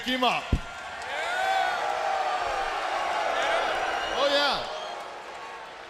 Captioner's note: crowd cheering